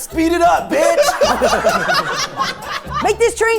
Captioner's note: everyone laughing